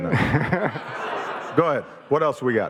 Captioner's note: audience laughing